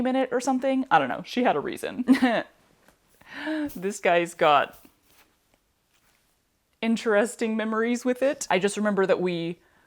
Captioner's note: laughter